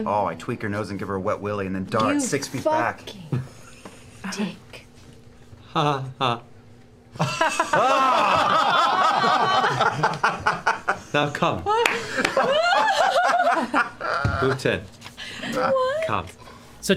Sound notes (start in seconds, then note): 7.1 laughter; 7.2 creepy chuckle